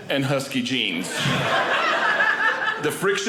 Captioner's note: audience laughing